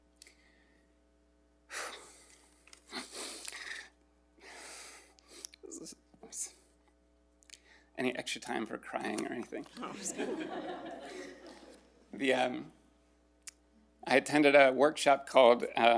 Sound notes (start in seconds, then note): 2.8 breathes heavily and sniffles; 9.8 all laughing